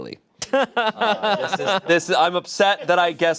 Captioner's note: laughing